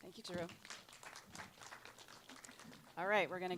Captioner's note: applause